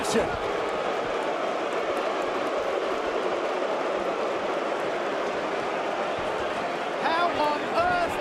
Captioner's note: crowd chatter